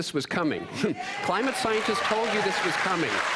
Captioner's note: cheering and applause